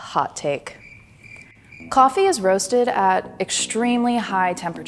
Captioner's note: crickets